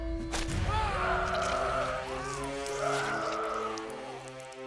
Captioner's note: Dalton screaming; blood squirting